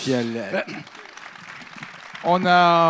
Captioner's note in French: Applaudissements